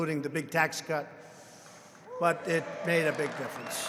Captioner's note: applause